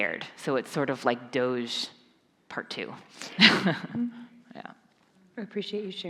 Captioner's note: chuckles